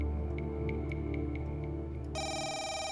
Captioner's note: phone ringing